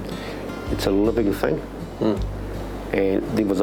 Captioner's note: man grunts in agreement